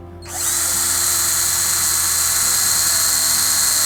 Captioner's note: drill whirring